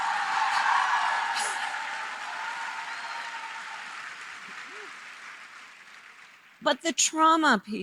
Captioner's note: applause